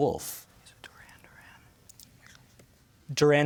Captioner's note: whispers